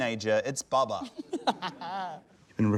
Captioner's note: laughs